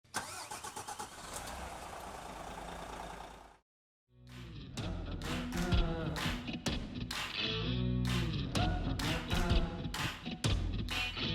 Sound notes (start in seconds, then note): 0.0 engine starts; 4.3 upbeat music